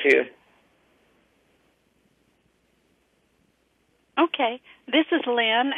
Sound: pause

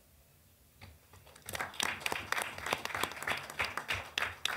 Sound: applause

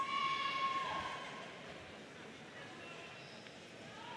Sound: audience cheering

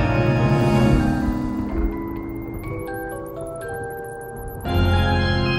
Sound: thunder rumbling; spooky organ music flourishes

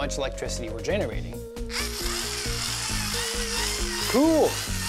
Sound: whirring

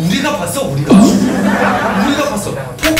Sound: laughter

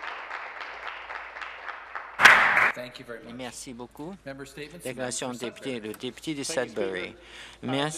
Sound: some applause

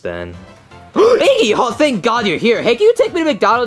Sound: gasps

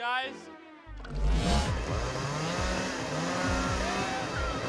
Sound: whirring; dramatic music

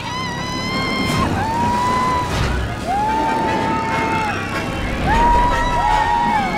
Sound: screams; dramatic music

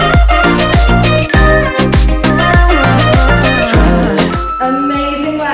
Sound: countdown timer beeping

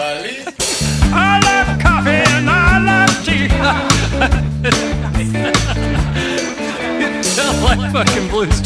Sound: haha; background laughing

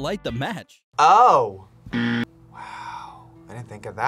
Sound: buzzer rings; whispers

